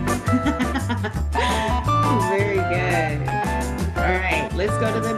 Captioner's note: laughing